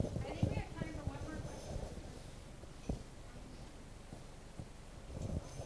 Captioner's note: speaking off mic